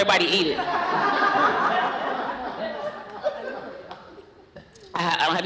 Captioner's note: laughter